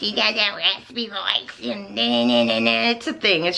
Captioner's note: annoying makala voice